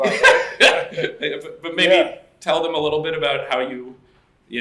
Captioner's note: laughs